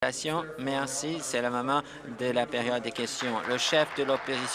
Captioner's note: applause